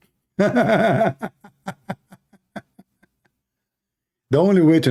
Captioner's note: Ketawa